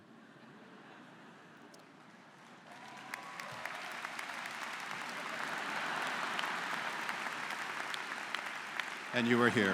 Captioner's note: laughter�; �cheers and applause�